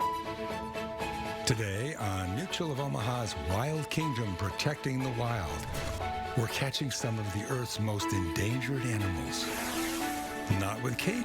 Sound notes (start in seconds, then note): 9.0 drone engine whirring